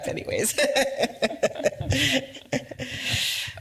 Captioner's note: laughs